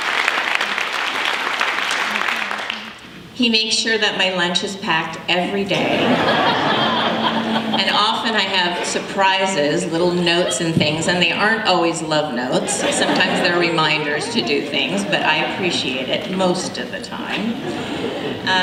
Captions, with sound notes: He makes sure that my lunch is packed every day. [LAUGHTER] And often, I have surprises, little notes and things. And they aren't always love notes. Sometimes they're reminders to do things. But I appreciate it, most of the time.